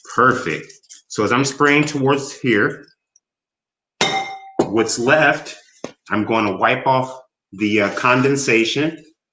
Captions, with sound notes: Perfect. So as I'm spraying towards here, (bowl clangs) what's left I'm gonna wipe off the condensation